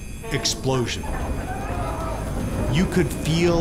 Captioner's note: alarm ringing